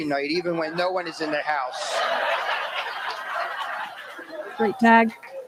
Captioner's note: laughter